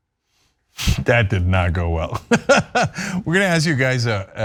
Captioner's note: laugh